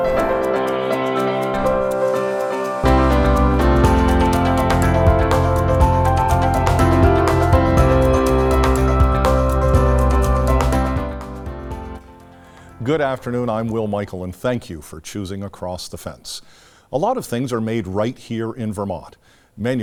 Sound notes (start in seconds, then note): 0.0 goats bleating